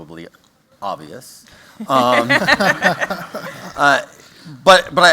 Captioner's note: laughter